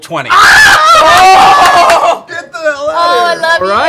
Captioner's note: cheering